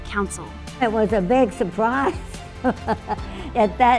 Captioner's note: laughs